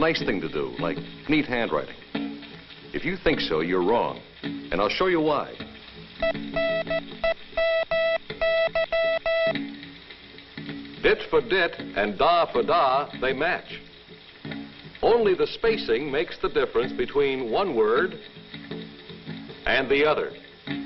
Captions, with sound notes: A nice thing to do like neat handwriting. If you think so you're wrong and I'll show you why. (beeping) Dit for dit, and da for da, they match. Only the spacing makes the difference between one word and the other.